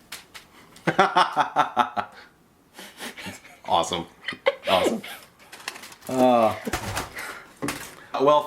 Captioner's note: laughter